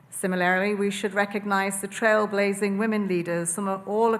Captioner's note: none